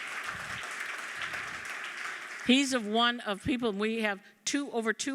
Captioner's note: applause